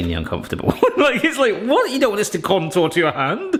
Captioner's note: chuckles